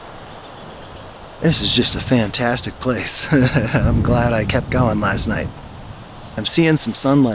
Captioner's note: laugh